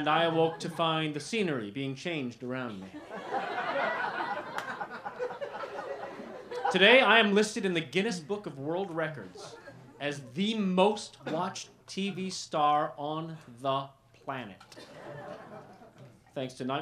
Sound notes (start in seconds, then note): 2.8 laughter